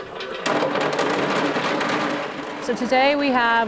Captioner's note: food rattling